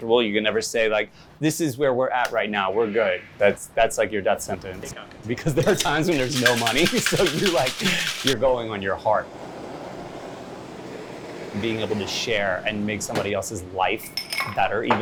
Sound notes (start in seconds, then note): 5.6 laughing